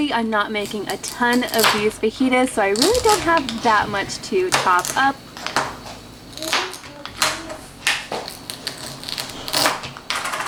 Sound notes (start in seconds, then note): 5.8 knife thudding